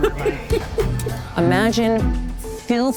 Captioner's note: laughing